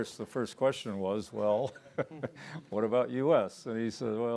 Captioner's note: everyone chuckling